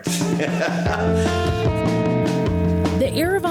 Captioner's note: laughs; upbeat rock music